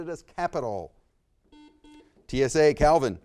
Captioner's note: buzzer beeps